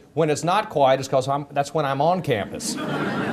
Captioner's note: audience laughter